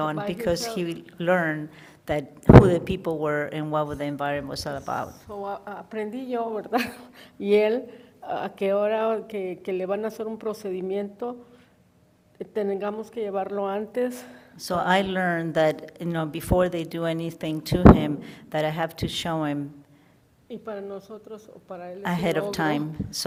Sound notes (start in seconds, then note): 6.7 woman speaks in foreign language